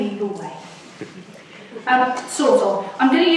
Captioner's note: audience laughs